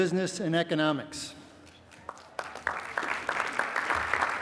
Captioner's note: applause